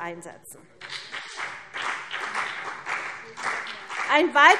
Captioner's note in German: Beifall CDU und BÜNDNIS 90/DIE GRÜNEN